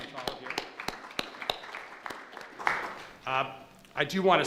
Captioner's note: applause